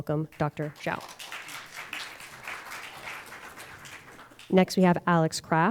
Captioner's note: audience applauding